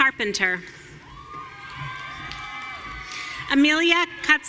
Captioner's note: audience cheering